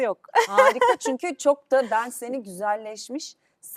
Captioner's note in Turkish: kahkaha